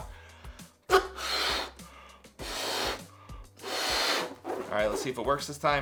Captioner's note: blowing balloon